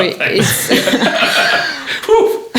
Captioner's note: laughing